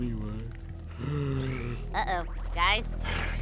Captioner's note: sigh